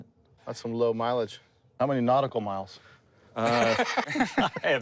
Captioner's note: laughter